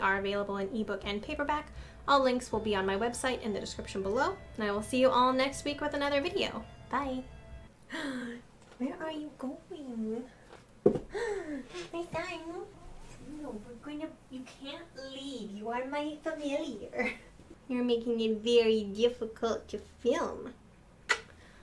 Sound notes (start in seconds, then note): 7.9 gasp; 21.0 kiss